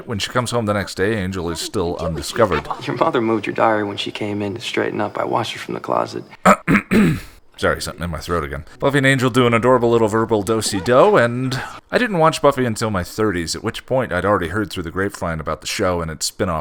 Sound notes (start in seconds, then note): 6.4 cough